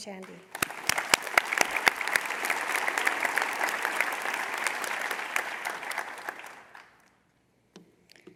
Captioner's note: applause